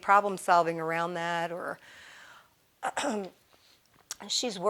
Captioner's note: clearing throat